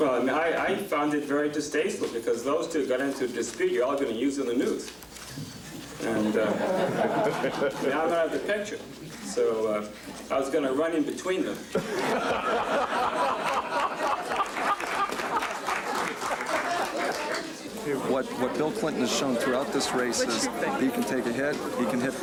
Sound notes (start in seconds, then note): 5.5 laughing; 12.2 laughing and clapping